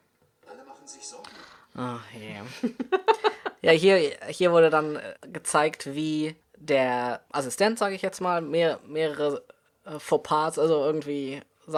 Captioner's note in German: lacht